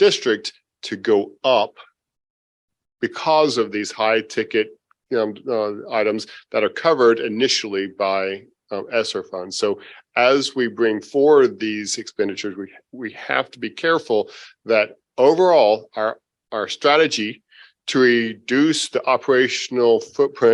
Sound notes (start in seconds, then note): none